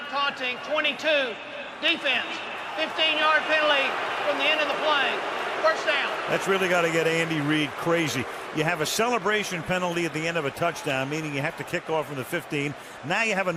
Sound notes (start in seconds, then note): 6.8 booing